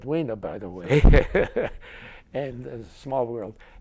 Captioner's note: laughter